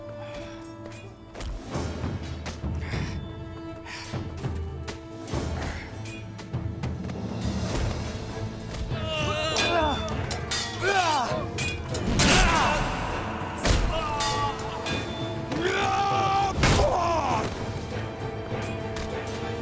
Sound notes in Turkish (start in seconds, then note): 1.8 Kılıç sesleri; 8.9 Dövüşme sesleri; 9.3 Kılıç sesleri; 15.5 Dövüşme sesleri